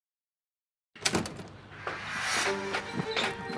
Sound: doors opemming

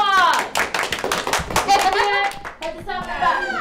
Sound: clapping

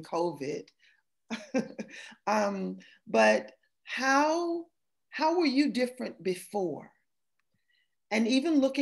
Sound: laughter

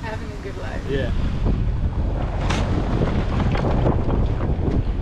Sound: wind blowing

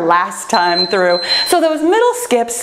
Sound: timer beeps

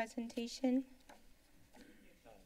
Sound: rustling sound

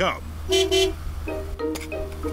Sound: honks horn

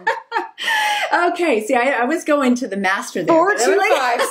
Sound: laughs

